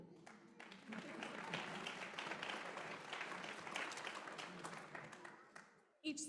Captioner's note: applause